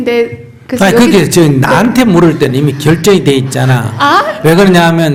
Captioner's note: questioner Laughter